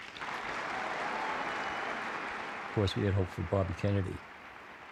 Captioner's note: audience applauds